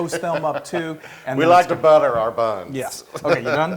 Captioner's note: laugh